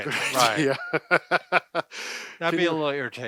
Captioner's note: laughs